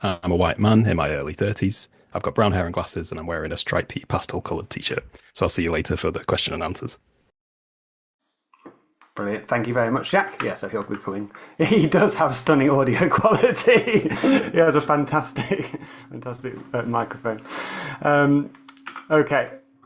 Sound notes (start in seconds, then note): 12.9 laughs